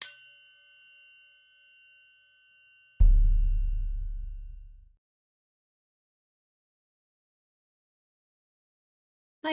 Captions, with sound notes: (bell rings) Attribution CC BY (drum sound) creative commons